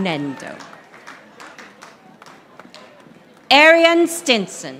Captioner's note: audience applauding